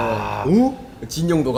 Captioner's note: wooooow